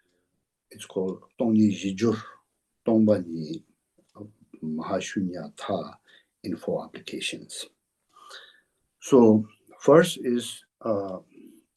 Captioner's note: tibetan